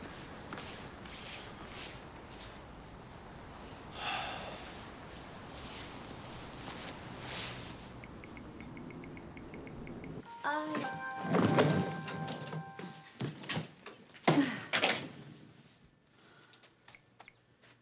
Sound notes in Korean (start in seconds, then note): 5.1 휴대전화 문자 수신음